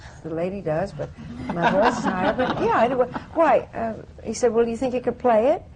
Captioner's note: laughter